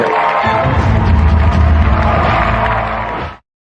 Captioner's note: dramatic sound effects